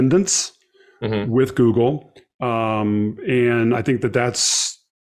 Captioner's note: mm-Hmm